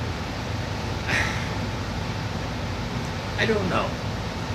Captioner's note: sighs